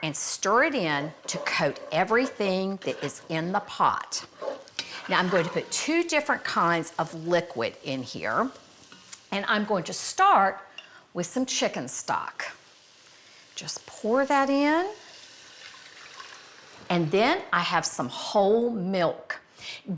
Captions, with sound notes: and stir it in [utensil scraping] to coat everything that is in the pot. Now, I'm going to put two different kinds of liquid in here, and I'm going to start with some chicken stock. Just pour that in. [stock splashing] And then I have some whole milk.